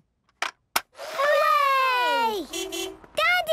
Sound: distant beeping

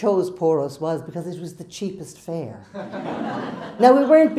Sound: crowd laughs

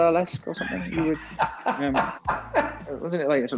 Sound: Graham laughing

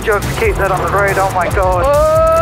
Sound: laughing

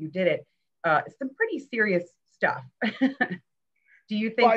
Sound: chuckles

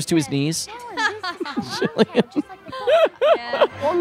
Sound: both laughing

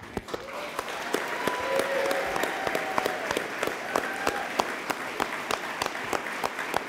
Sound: all applauding; audience members cheering

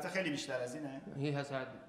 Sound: speaking in farsi

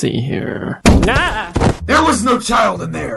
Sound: more bombing

